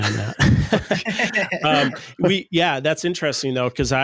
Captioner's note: laughing